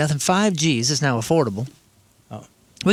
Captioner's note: none